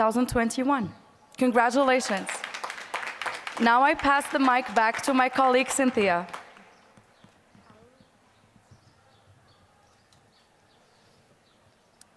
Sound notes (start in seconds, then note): 1.5 applause